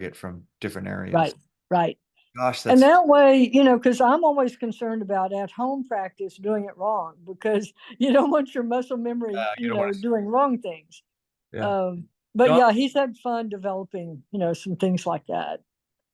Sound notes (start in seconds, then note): 9.3 laughs